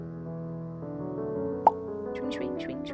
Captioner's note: pop sound